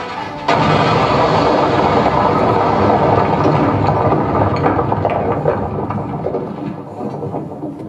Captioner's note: really big explosion as the music stops